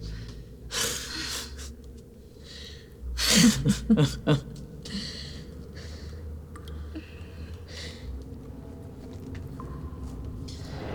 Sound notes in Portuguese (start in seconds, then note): 3.4 risos